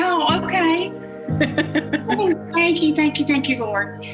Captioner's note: laughs